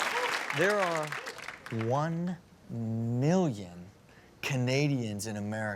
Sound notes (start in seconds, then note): 0.0 audience applauds